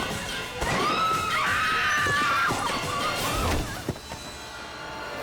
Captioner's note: women screams